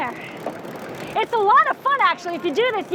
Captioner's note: reel crackling